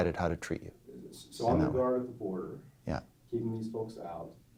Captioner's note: voiceover